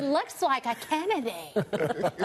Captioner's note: laughter